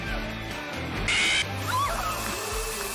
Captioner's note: FNAF Screaming